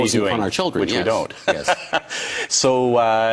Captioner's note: laughs